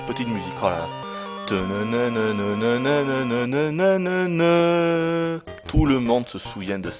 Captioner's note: hums the tune